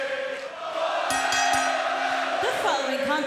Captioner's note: bell rings